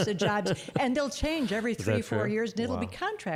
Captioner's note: laughing